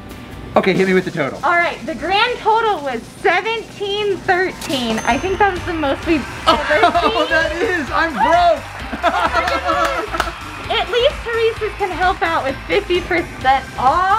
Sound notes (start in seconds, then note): 9.9 laughing